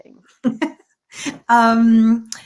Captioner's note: laughter